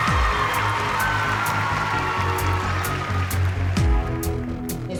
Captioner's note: cheering